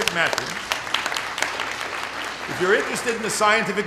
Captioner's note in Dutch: Applaus